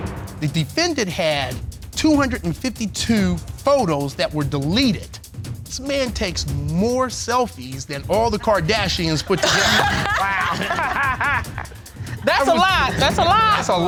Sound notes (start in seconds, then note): 9.8 laughter